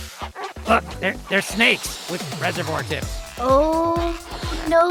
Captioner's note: air flow